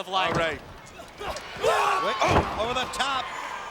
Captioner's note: Liger yells